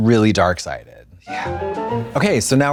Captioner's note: bright chime